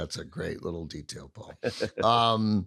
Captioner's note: chuckles